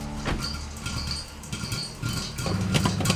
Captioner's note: popping